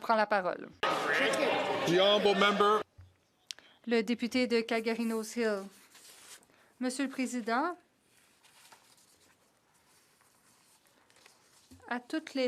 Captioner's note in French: voix de l'interprète